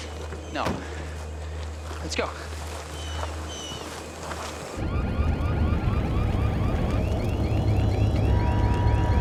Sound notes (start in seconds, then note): 4.2 sirens blaring